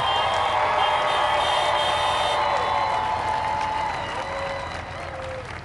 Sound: crowd applauds

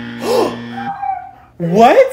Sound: buzzer; gasps

